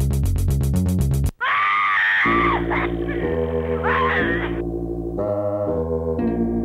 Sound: one person shrieking, choking and coughing in quick succession

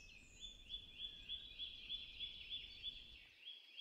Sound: birds singing

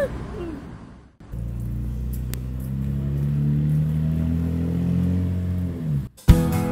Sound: shouts in joy; Camaro passing

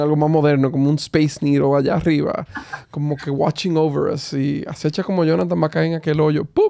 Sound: laughter

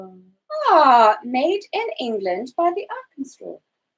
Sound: speaks quietly

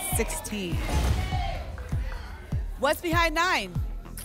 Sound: whoosh; thump

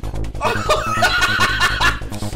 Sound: laughter

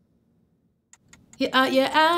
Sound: timer ticking

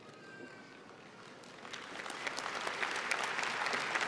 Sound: applause

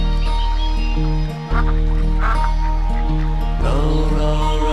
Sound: ducks quacking

